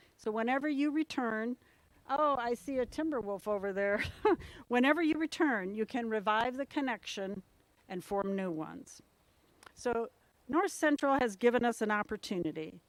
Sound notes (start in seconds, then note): 3.9 laugh